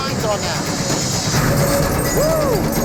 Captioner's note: glass shattering